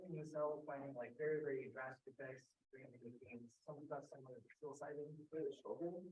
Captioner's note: speaking faintly